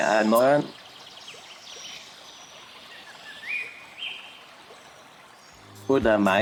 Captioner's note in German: Naturgeräusche